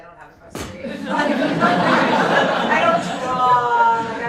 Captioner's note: laughter